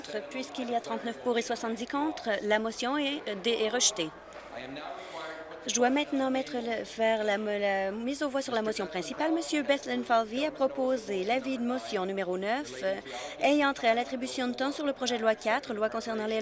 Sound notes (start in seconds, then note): none